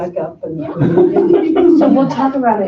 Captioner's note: laughter